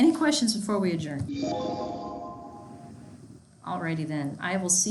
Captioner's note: notification bell chiming